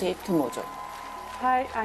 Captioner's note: cheers, applause